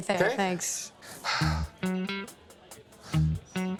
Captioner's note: sighs